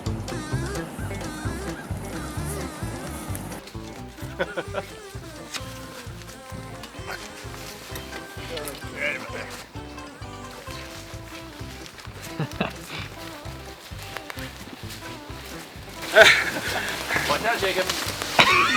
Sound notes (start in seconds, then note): 4.0 leaves underfoot rustling; 4.8 laughing; 12.7 laughing; 12.7 leaves crunching